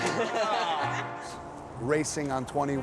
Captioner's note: group laughing